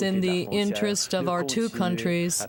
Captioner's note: speaking French